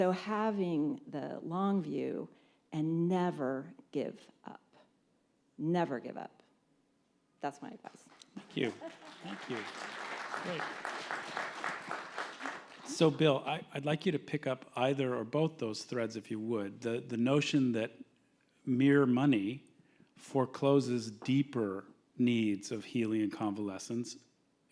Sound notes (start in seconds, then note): 7.9 applause